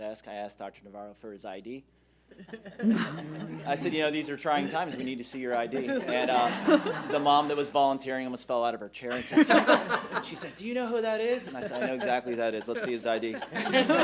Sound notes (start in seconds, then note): 2.4 laughing; 13.7 laughing